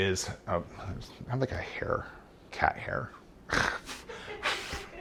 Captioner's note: laughing; blowing out